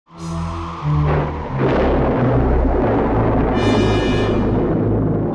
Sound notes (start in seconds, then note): 0.0 suspenseful music; 0.4 thunder rumbles